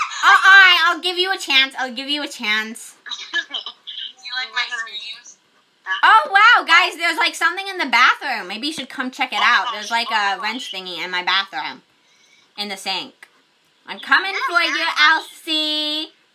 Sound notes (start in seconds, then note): 3.1 chuckles